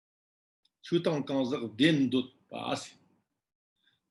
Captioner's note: tibetan